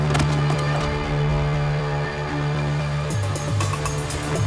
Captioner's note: body thudding; energetic music